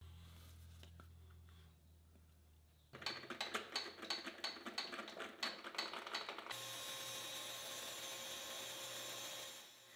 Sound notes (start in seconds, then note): 3.1 lever clanking; 6.4 pantograph whirring